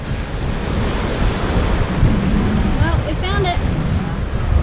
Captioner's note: waves crashing